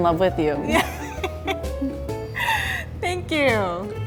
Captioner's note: laughs